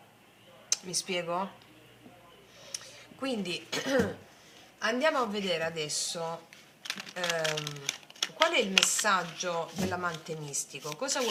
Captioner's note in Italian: schiarire la voce